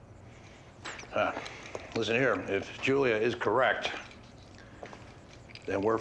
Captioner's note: grunts